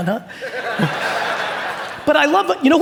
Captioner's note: audience laughing